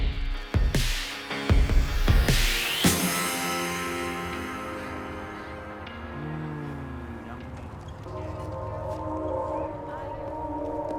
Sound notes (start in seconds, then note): 0.8 tattoo gun whirs; 8.1 calm music